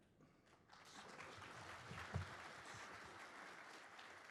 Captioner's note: applause